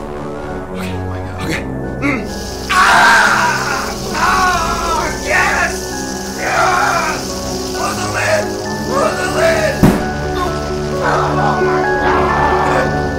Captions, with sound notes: -Okay, okay... -Oh my God... *SCREAMING* YES! YEEES! CLOSE THE LID! CLOSE THE LID! *SLAM* OH MY GOOOOOD!